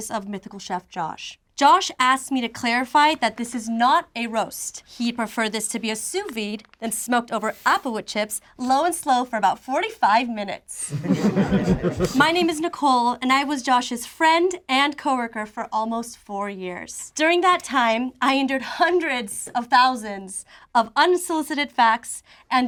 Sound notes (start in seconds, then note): 10.8 group laughs